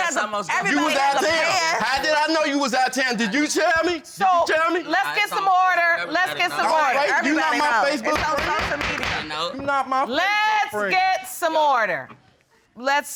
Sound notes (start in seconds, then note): 8.1 gavel banging; 8.4 all clamoring